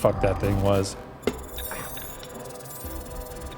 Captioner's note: static